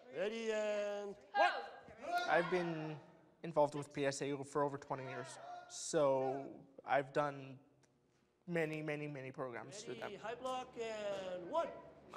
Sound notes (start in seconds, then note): 1.8 shouting